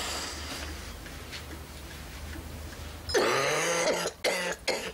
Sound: Charlie sighing; Gran coughing

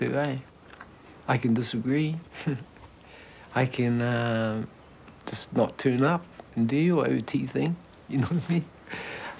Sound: chuckles

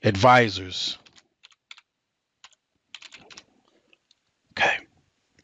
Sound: keyboard clicking

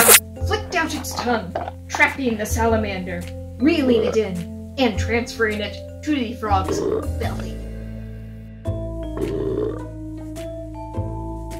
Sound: burping noises

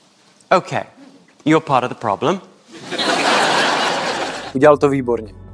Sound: laugh

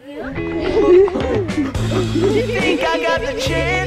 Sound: laughing

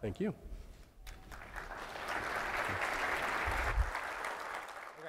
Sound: applause

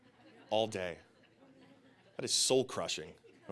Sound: audience laughing

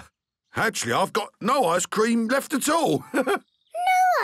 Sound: chuckles

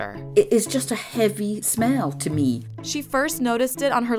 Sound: voiceover

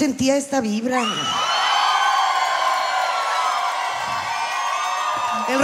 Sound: alegrías de multitud

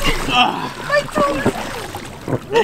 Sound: laughing; splashing

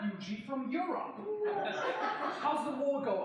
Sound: audience laughing

